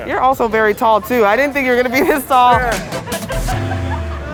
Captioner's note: laughing